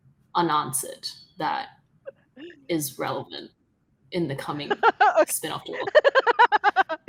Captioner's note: laughing